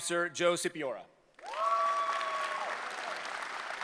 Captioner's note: applause